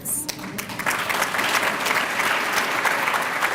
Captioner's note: applause